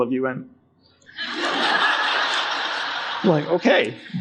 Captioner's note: audience laughing